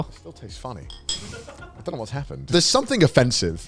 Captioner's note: man chuckles